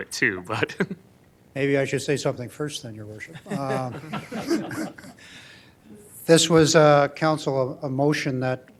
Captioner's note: laughing